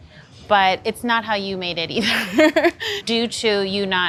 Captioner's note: laughs